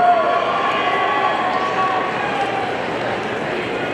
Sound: audience cheering

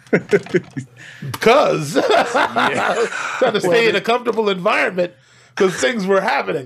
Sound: laughs

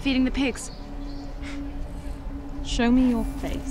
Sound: Chorn scoffs

